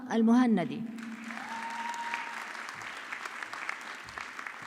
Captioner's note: audience clapping